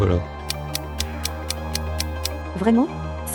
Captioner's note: tick tick tick